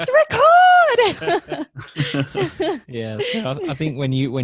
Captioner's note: laughing